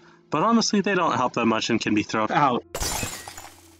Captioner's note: glass breaks